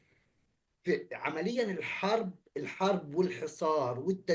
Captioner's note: speaking arabic